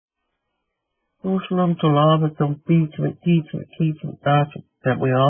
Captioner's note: speaking in Native language